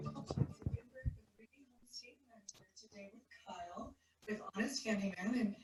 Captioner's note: speaking faintly